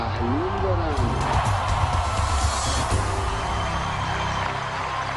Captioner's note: cheering